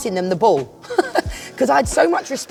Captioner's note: laughing